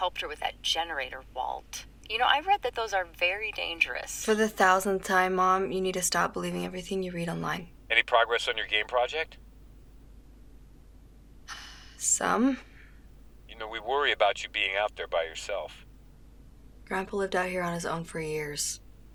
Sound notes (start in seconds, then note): 11.5 sighs